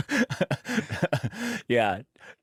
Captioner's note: laughter